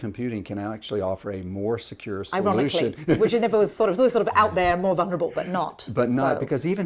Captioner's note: laughter